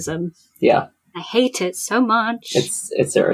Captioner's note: sing-song